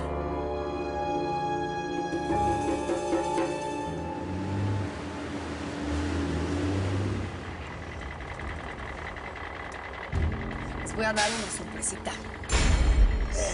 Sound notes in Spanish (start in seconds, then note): 5.0 Sonido del camión